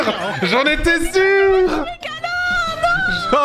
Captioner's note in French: rires, inaudible